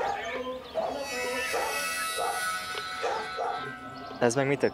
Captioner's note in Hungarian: distant yelling